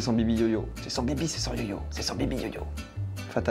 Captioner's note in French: chuchote